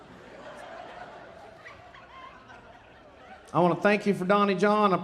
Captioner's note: audience laughing